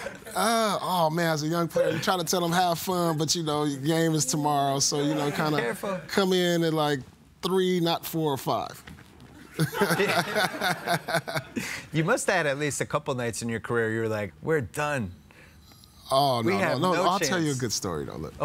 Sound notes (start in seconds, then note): 9.4 laughing